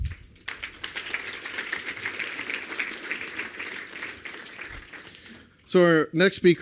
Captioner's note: applause